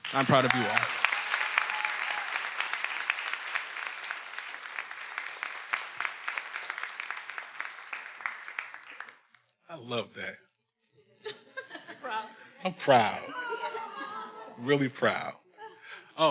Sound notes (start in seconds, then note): 0.0 everyone applauding; 0.0 attendees cheering; 11.0 faculty laughing